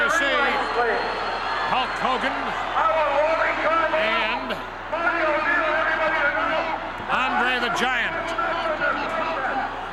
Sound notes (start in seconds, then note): 5.8 Bobby shouting indistinctly